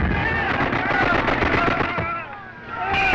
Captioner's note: gunfire